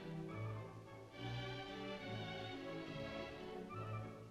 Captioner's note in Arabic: none